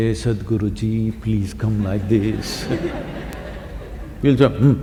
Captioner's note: few laugh